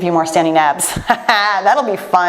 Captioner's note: laughs